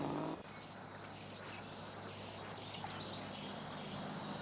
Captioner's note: birds chirping